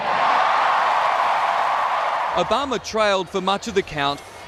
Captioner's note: cheering and applause